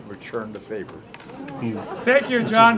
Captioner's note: laughter